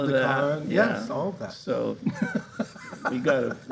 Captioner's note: laughing